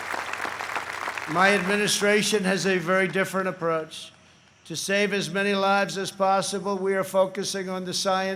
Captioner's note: applause